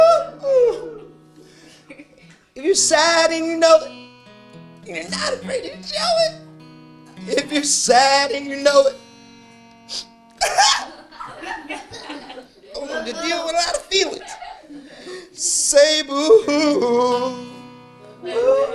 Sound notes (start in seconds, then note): 10.3 weeps; 10.4 children laugh